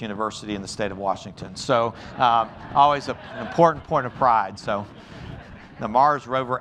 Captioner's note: laughter